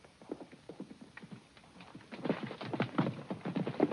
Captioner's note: pezuñas golpean